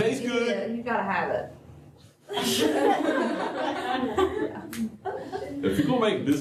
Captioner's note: laughter